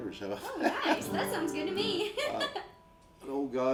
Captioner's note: laughs